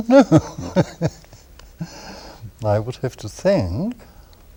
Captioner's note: laughter